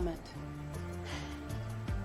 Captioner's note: sighs